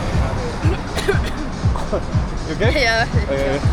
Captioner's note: cough